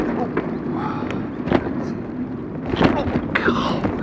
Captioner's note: bumps